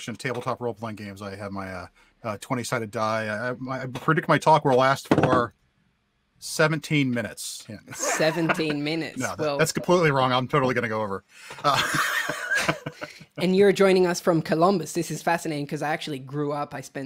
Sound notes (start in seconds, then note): 11.6 both laughs